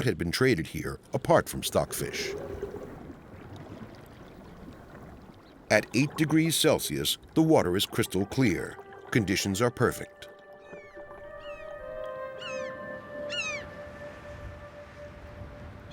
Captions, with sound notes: what had been traded here apart from stockfish. At eight degrees Celsius, the water is crystal clear. Conditions are perfect. [gulls calling]